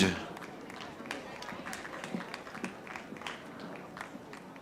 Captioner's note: audience applauding